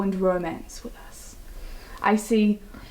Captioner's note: whispers